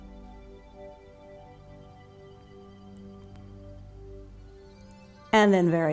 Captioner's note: silence